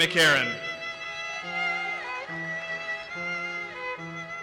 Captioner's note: audience applauses